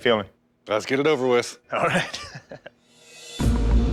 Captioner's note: laughs; suspenseful music